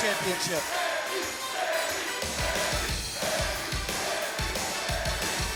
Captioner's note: crowd chants "Sami"